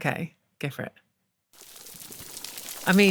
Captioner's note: crackling, gurgling